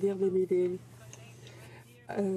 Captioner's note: speaking in french